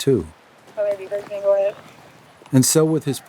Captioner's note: radio talking